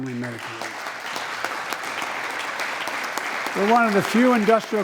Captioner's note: applause